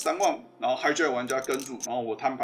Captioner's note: slip